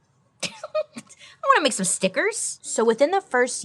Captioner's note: giggles